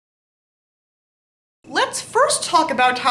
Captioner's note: silence